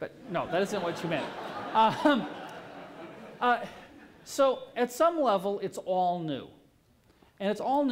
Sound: laughter

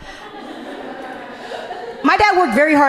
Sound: audience laughing gently

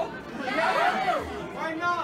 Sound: crowd

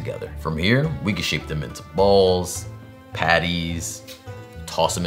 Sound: none

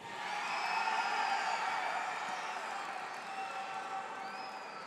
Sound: audience cheers

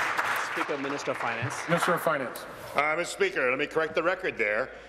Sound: applause

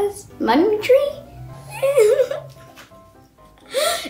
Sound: laughs

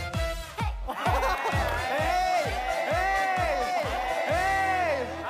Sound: everyone's jeering

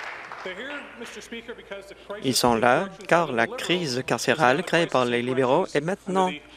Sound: applause

